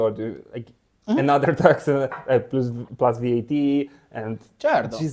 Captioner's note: laughs